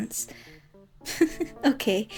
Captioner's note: giggles